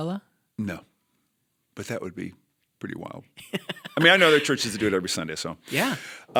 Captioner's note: chuckle